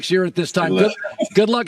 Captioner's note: laughs